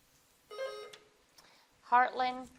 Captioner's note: bell dings